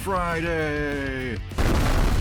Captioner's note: explosion